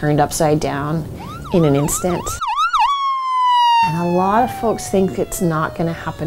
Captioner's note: ambulance wailing